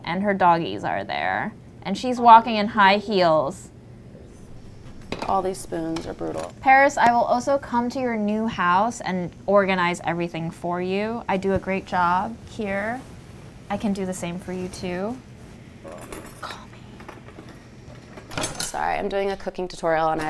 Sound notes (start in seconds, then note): 18.0 utensils clanging